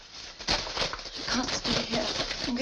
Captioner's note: objects clattering